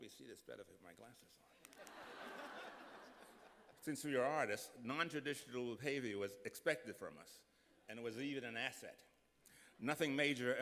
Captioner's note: laughter